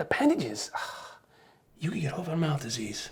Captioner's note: sighs